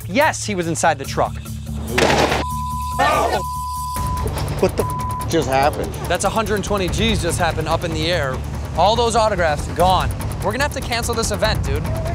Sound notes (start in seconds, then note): 1.1 explosion; 2.4 beep